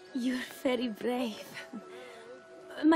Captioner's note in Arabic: none